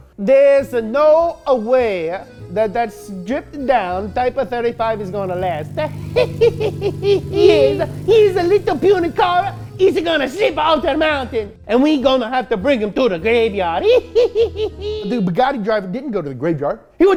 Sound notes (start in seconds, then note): 6.2 laughing; 13.8 laughing